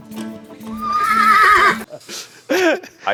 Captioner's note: horse whinny